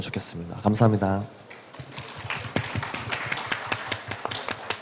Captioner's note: claps